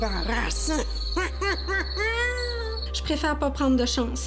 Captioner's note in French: rire maléfique